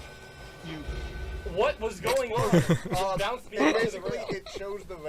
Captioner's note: chuckles